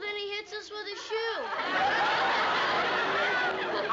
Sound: laughter

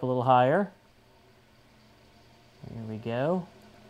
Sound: whir of fan

